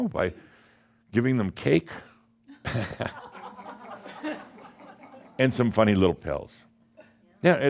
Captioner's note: some chuckles